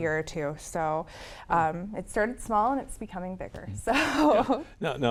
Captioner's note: laughs